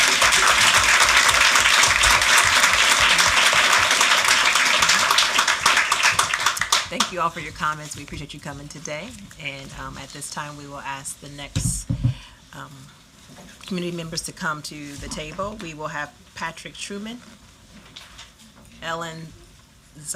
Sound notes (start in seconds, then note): 3.9 applause